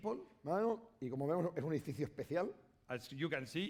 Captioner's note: speaking spanish